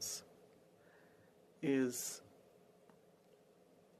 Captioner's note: speaking French